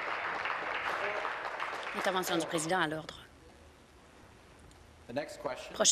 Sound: applause

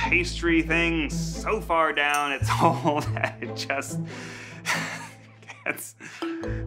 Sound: chuckles

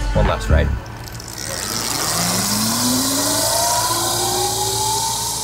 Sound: bike whirring

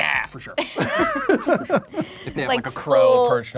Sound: all laughing

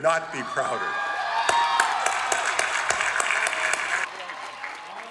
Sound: applause

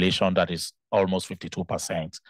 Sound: speaking in Spanish

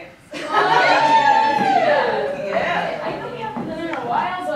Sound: all laughing

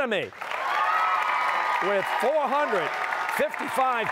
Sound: cheers and applause

